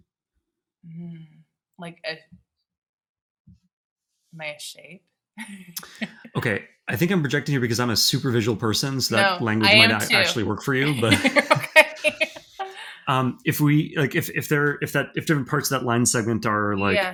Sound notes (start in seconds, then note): 5.4 chuckling; 10.7 laughing